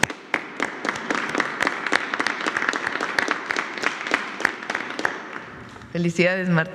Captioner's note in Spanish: aplausos